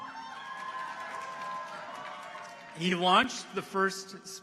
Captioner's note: people cheer